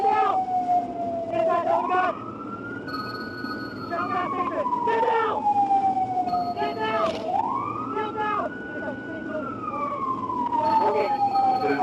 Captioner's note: police Sirens